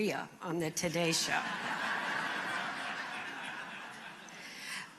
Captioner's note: laughter